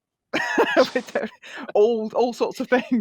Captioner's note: laughs